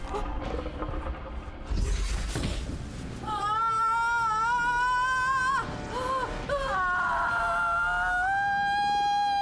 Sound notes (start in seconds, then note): 0.1 spooky music; 3.4 yells